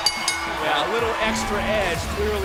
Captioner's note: bell ringing